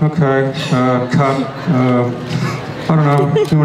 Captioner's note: Bryan laughs